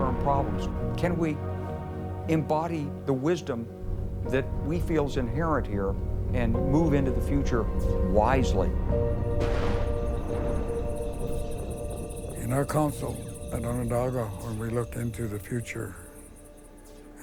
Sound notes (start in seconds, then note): 10.6 crickets chirp